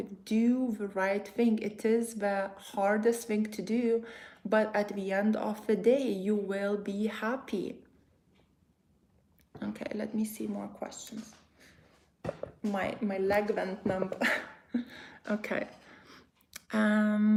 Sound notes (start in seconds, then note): 14.1 chuckles